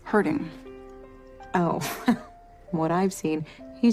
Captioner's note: chuckles